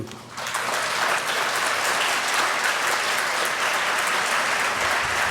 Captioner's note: applause